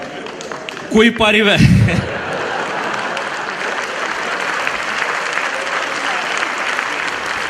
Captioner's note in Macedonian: аплауз